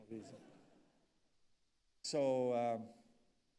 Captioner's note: audience laughs